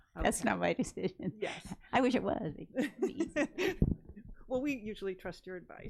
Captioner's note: laughs